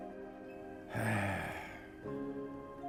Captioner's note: sighs